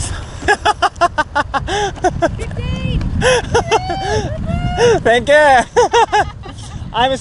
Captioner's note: laughs